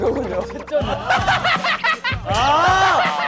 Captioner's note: laughing handsome guy